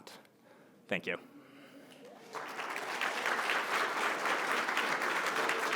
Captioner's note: applause